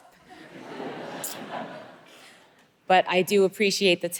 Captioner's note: audience laughing